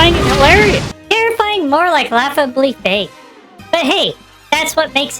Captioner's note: mockingly